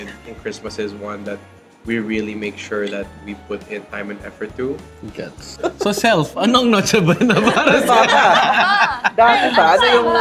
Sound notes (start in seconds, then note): 7.0 laughs